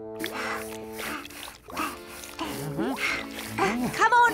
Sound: pants

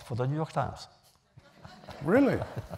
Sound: laughter

